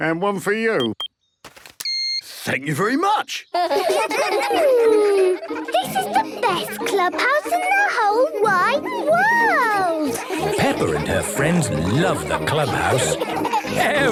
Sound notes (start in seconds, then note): 1.8 beeps; 4.1 children giggling